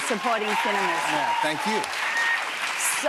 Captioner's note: cheers and applause